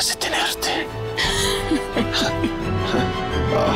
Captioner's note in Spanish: Risas